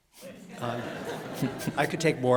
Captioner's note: laughter